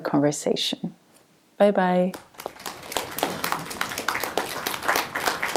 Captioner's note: applause